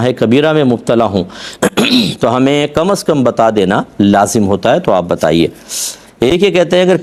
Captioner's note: clears his throat